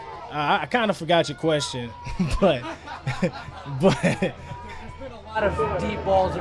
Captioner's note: laughs